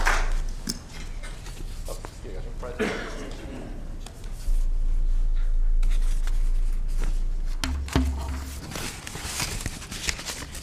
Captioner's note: applause